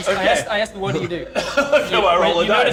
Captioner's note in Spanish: Risas